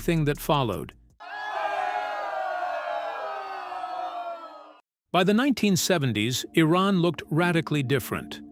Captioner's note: crowd cheering